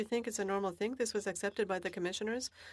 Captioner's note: speaking French